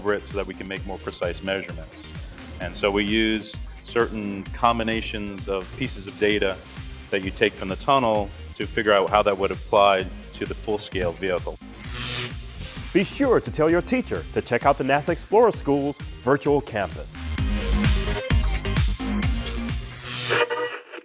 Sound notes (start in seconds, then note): 10.9 sound Effects